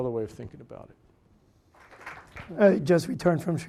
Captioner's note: audience applauding